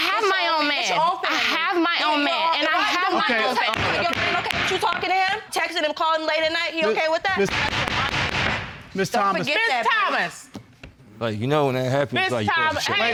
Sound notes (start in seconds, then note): 3.0 both arguing; 3.7 banging gavel; 7.3 gavel banging